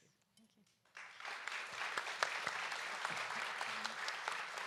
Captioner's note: audience applauds